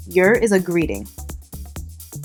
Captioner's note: voiceover